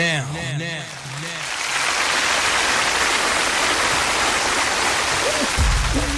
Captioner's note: applause